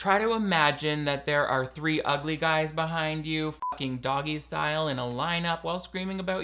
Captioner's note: beep